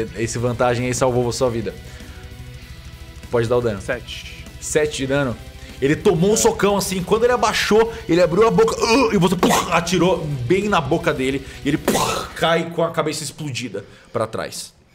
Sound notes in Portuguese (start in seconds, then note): 11.7 pow